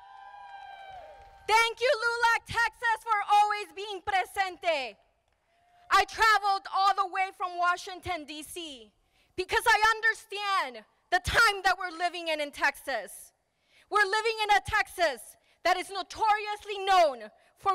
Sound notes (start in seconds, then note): 0.0 crowd applauding; 3.7 speaking in foreign language